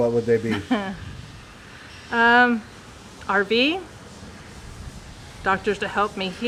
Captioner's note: chuckles